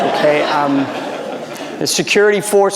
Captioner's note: audience laughing